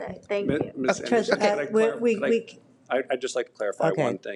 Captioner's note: both chattering